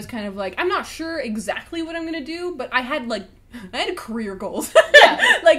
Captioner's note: laughs